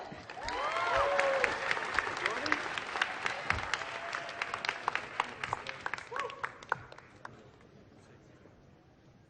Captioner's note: applause